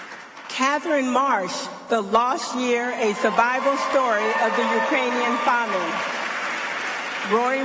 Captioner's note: applause